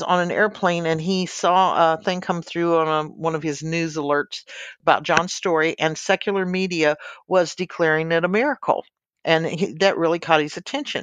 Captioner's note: a news alert